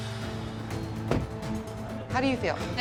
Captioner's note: door bangs